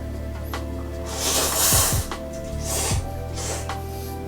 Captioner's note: slurping noodles